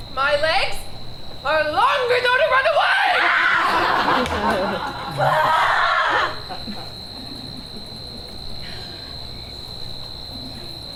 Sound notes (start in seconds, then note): 3.4 audience laughs; 3.4 Hermia screams